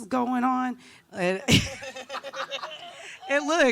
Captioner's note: laughing